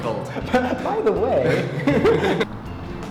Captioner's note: chuckle